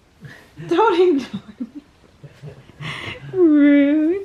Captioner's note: laughing